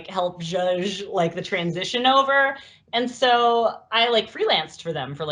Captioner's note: laughs